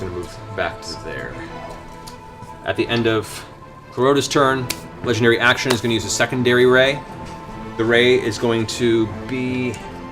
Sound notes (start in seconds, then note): none